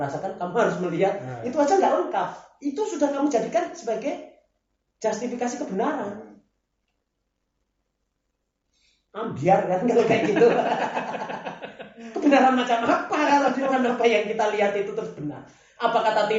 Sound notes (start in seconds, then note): 9.9 laughs